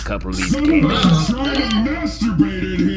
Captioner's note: several of the group yell in surprise